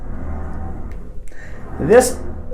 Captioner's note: door glides gently